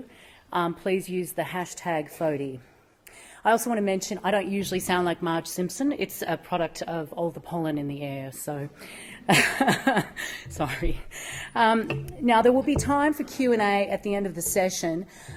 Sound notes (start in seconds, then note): 9.3 chuckles